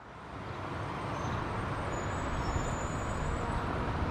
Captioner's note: loud traffic